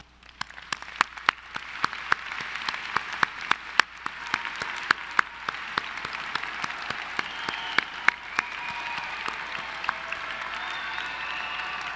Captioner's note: applause